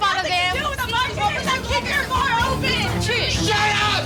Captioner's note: bartenders shout